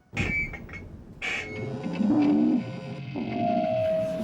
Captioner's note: feedback